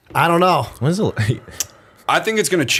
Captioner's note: chuckle